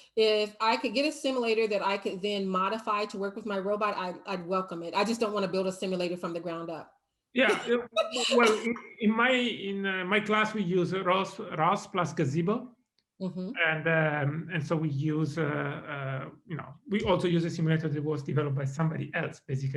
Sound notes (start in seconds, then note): 7.4 chuckles